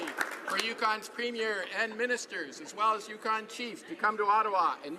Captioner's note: applause